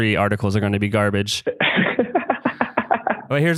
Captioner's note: laughs